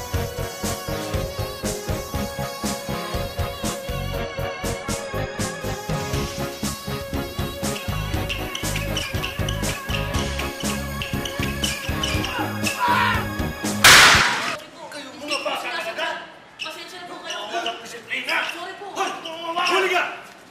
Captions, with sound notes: [shoes squeak] [grunts, screams] -Sorry. -You punk! -I'm sorry. -You don't have discipline. -Sorry. -Got you!